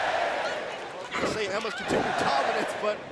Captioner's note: crowd cheering